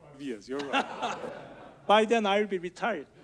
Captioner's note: audience laughs